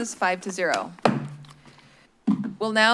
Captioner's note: bangs